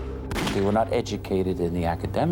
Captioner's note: gun fires